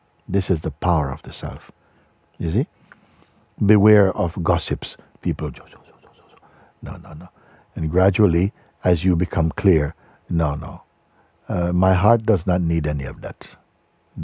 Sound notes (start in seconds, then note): 6.0 ψιθυρίζοντας